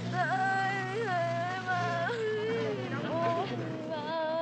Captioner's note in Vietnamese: Khóc than